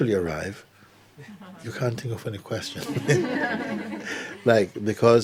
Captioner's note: laughter